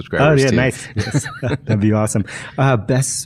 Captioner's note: laughing